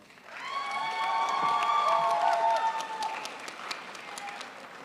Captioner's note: crowd applauds